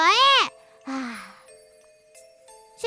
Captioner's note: sigh